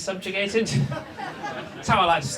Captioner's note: audience laughs